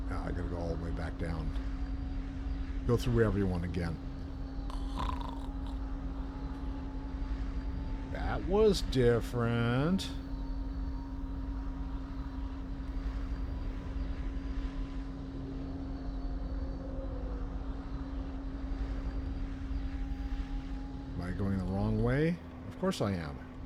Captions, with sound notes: I've got to go all the way back down. Go through wherever you want again. [snoring] That was different. Am I going the wrong way? Of course I am.